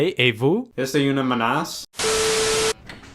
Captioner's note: goes French